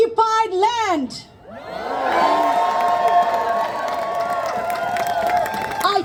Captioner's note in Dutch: Gejuich